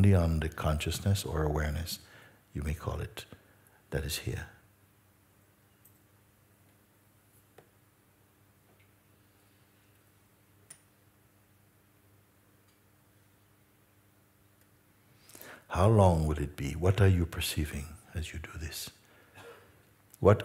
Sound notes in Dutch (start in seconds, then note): 7.7 stilte